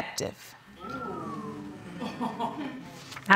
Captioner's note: audience gasps; laughter